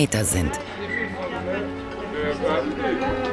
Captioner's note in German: Gespräche im Hintergrund, bewegte Musik